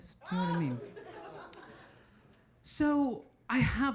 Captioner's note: audience laughing